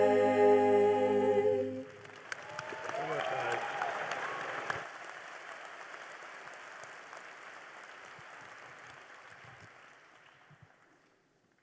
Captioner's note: applause